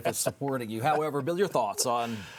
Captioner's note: everyone laughing